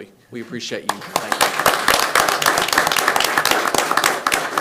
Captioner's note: hands clapping